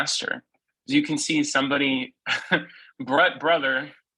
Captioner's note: laughs